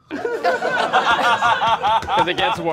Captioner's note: all laughing